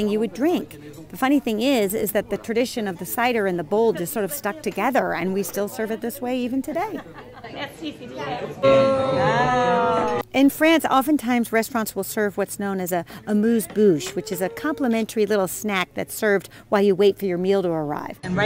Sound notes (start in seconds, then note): 8.8 wooing in excitement